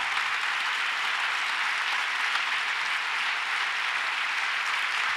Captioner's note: audience applauds